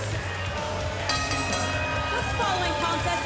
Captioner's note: bell ringing